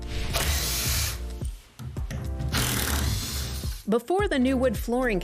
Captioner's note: drill whirring